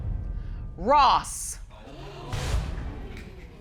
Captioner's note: audience exclaim